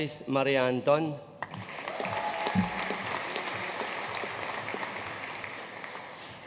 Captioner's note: audience cheering and applauding